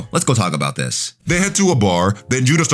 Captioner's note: air whooshing